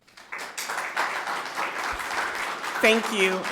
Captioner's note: people clapping